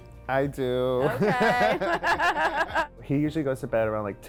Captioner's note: chuckling